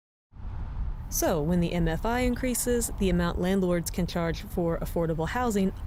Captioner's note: voice-over